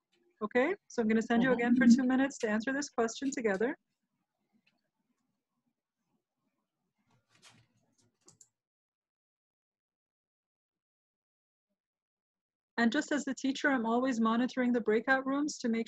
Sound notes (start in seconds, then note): 5.6 silence